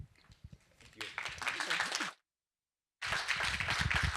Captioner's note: applause